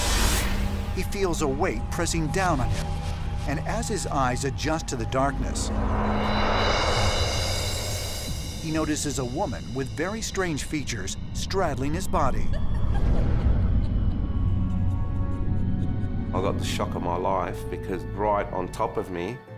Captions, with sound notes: He feels a weight pressing down on him. And as his eyes adjust to the darkness, he notices a woman with very strange features straddling his body. [sinister laughter] I got the shock of my life, because right on top of me